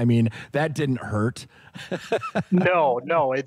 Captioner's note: laughter